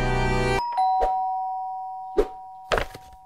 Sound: ding dong

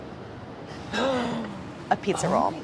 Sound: gasps

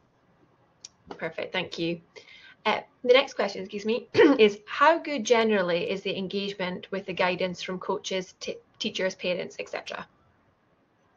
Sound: excuse me, cough

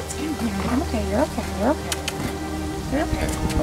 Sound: tongue clicks

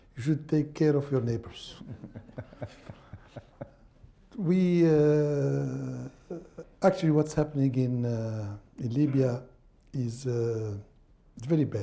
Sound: laughter

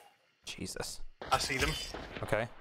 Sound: walking on glass; gunshots

